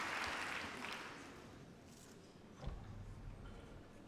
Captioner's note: applause